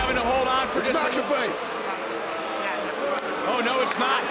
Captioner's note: crowd boos